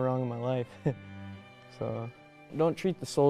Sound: laughs

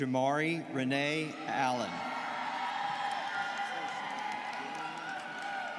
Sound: students cheering

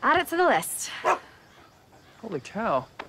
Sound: Dancer barks

